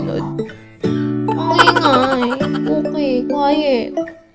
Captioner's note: laughs